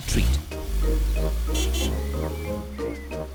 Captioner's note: horn honks